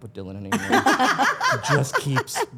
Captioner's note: Stephanie and Elyse laugh